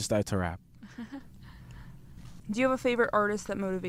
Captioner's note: laughing